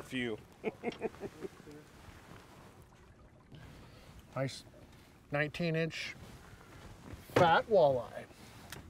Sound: chuckling

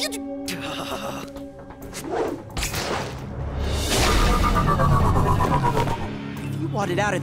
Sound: sighs

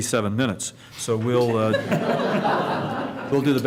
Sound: laughter

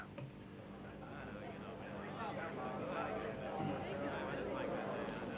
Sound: people chattering

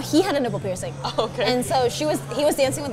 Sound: laughs

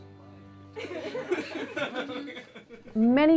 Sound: all laugh

